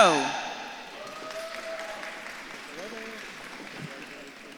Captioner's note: audience claps and cheers